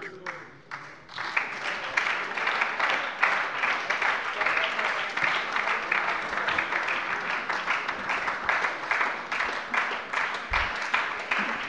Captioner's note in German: Lebhafter Beifall bei der SPD